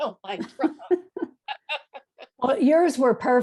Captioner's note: both laugh